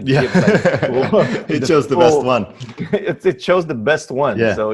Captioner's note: laughs